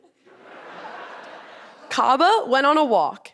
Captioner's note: audience laughing